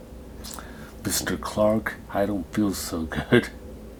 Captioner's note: coughs